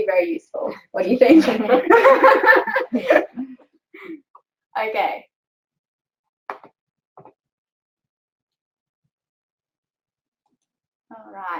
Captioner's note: laughs